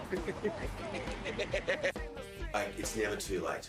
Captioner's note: laughs